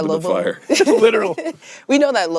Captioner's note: laughing